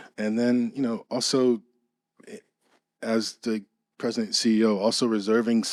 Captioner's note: none